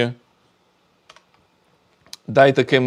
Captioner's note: keyboard clicking